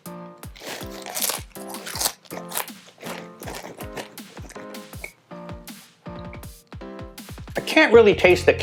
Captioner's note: crunching